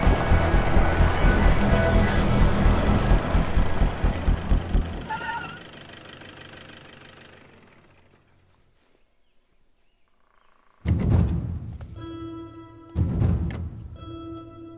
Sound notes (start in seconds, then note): 5.1 Brakes